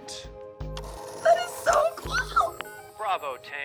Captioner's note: phone whirs